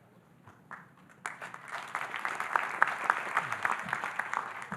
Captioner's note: audience applauding